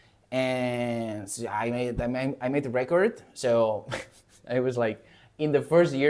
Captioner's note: laughs